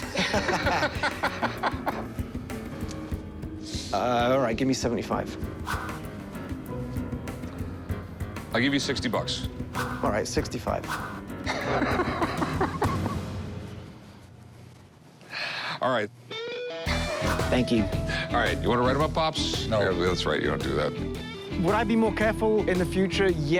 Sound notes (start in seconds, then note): 0.0 laughter; 11.4 laughing